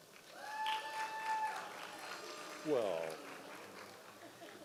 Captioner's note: audience applause